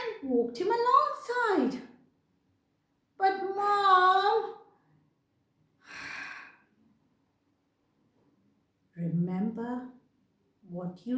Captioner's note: sigh